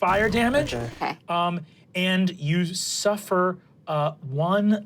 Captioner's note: engine powering down